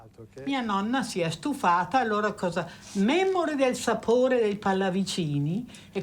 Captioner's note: speaks in foreign language